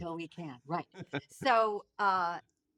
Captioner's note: laughing